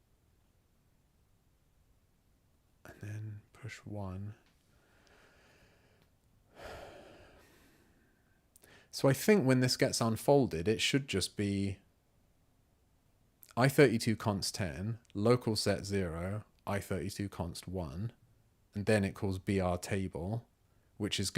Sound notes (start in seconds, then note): 0.0 silence; 6.5 sigh